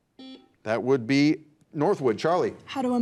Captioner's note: buzzer beeps